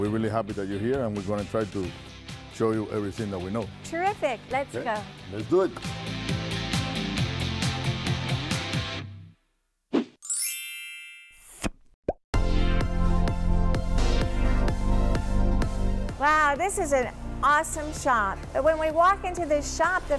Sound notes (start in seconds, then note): 6.2 upbeat music; 10.2 chiming; 12.3 upbeat music